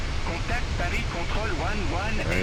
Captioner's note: radio chatter